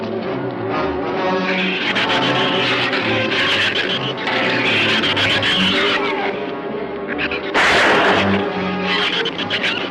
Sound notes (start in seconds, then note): 1.4 shrews screech; 7.5 gun fires